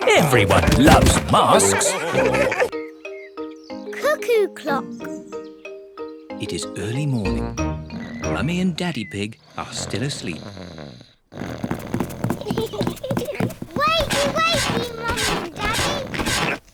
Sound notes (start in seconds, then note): 11.1 snores; 12.1 both giggle